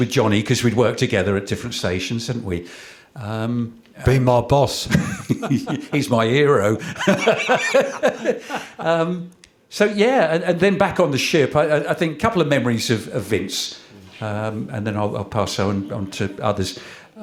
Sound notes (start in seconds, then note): 4.8 chuckles; 8.5 laughter